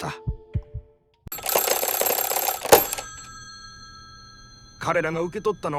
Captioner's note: phone ringing